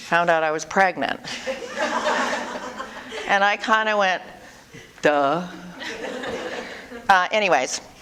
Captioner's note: audience: Laughter